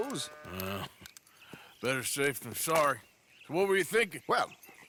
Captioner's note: grunts